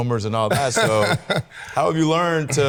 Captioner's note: Salvy laughs